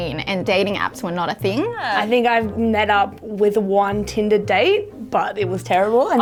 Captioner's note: none